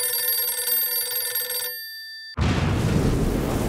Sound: phone Ringing; explosion

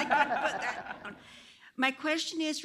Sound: laughter

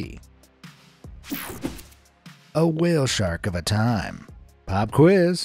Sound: screen wipe whooshes

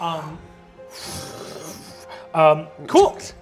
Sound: imitates magic whooshing

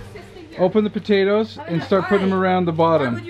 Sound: mumbles

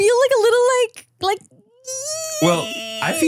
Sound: groaning; groans

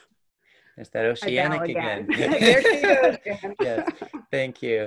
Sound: laughs

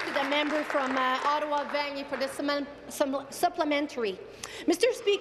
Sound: applause

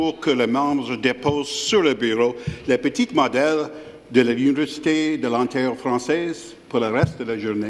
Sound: speaking in French

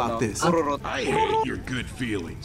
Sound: makes farting noise

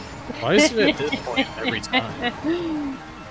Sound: guilty laff

